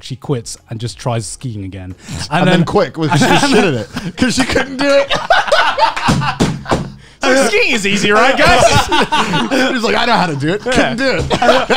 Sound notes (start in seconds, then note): 5.3 all laughing; 11.5 all laughing